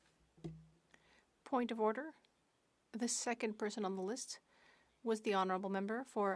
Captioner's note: speaking French